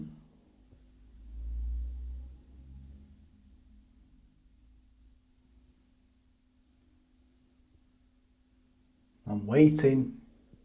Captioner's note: silence